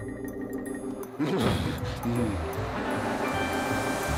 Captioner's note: shudders; heater whirring